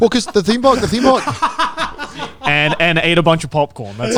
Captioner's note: laughing